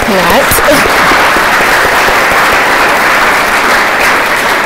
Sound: crowd applauds

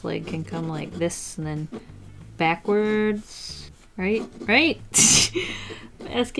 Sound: laughs

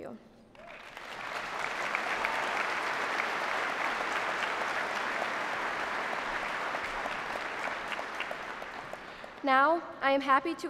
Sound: applause

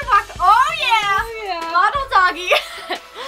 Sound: laughter

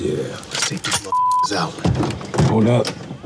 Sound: beeps

